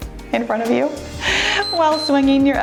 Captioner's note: timer beeps